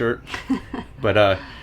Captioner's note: laughs